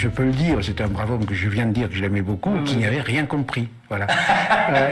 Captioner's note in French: rires